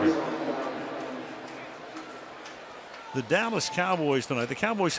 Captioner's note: pa announcement